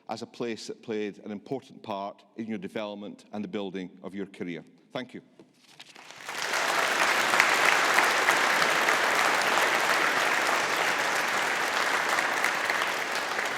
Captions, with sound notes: as a place that played an important part in your development and the building of your career. Thank you. (AUDIENCE APPLAUDING)